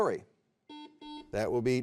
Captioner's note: buzzer beeps